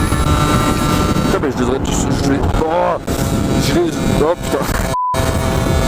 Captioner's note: stuttering